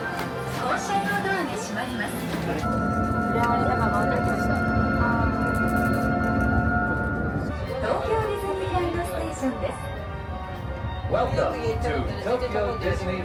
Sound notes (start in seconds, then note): 0.1 light music; 8.1 announcer speaking Japanese